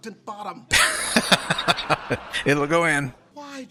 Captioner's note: laughing